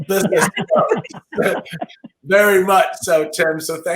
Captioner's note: laughing